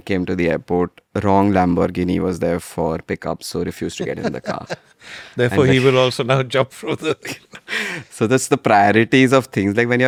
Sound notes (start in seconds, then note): 5.5 laughs; 8.0 laughs